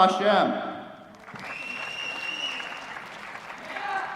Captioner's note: applause